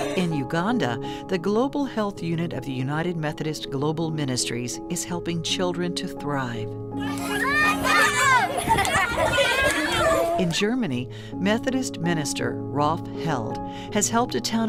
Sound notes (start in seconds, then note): 7.0 kids playing